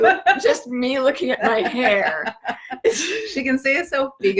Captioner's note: laughter